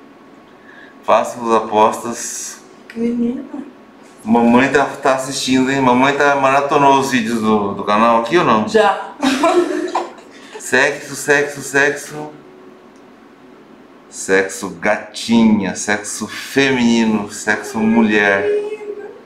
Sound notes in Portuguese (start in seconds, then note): 9.2 risos